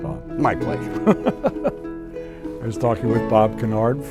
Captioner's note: laughs